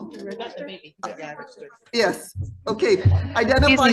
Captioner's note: audience murmuring